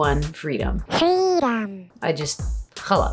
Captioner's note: cartoon voice